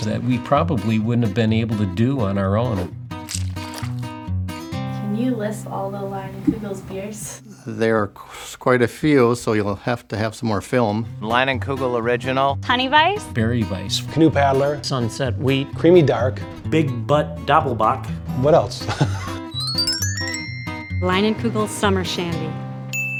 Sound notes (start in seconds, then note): 18.9 laughs